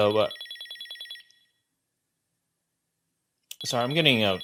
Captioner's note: phone ringing